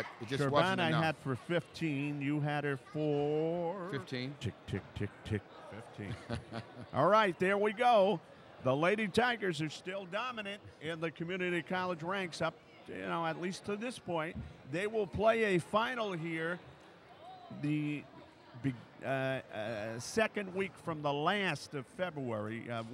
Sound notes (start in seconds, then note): 6.0 laughs